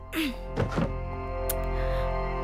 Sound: chair sound

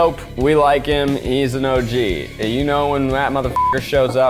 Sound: beep

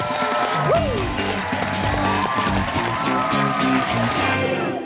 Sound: cheers and applause

